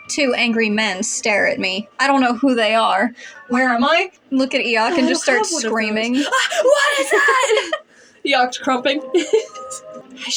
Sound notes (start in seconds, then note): 3.4 distorted; 7.8 laugh; 9.6 laugh